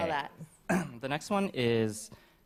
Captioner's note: clears throat